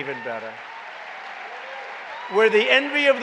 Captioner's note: applause